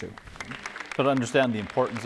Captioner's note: clapping